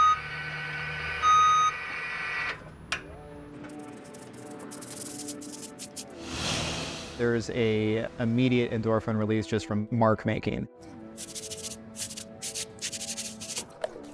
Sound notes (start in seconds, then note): 3.7 brush whisking